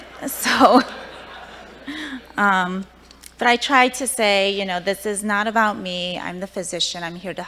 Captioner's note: laughter